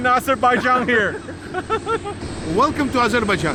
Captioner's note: laughs